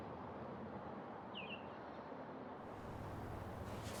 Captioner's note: birds chirping